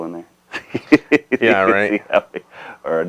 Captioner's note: laughing